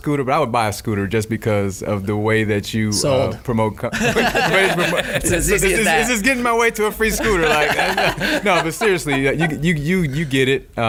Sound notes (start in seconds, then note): 3.9 laughs